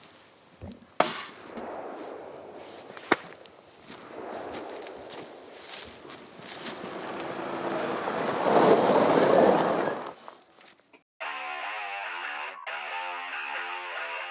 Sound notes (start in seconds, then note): 3.8 gun shooting in distance; 6.7 golf cart engine racing in; 11.2 rock guitar music